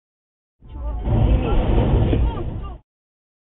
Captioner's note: crash!